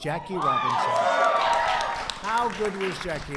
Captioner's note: applause